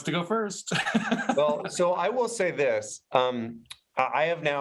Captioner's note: chuckles